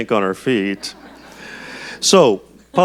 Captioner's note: audience chuckles